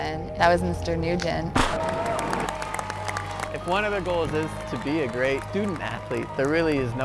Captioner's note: gunshot, cheering